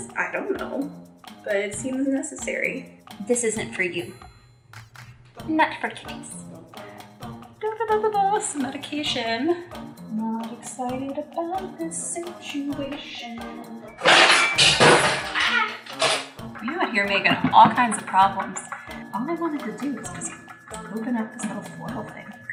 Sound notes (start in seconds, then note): 14.0 crashing; 15.3 gasping